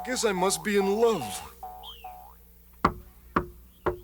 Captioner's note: knocking; coughing